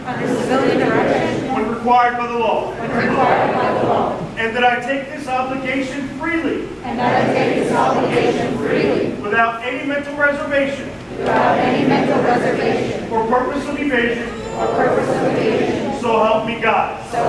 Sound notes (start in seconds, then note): 0.0 crowd; 6.9 crowd; 11.3 crowd; 14.8 crowd